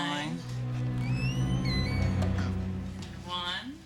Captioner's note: door creaking